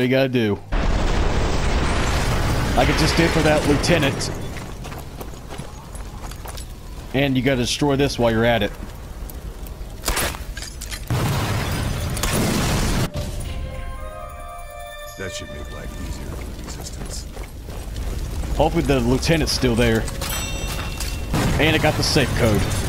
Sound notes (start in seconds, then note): 12.9 new truck exploding